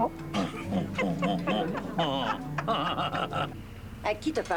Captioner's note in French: Rires